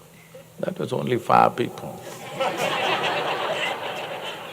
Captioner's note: laughter